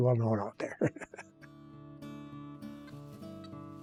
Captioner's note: laughs